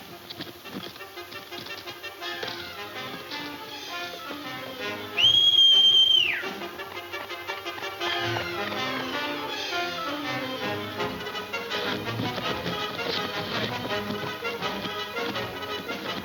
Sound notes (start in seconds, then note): 3.5 Jim whistling; 6.2 thrilling music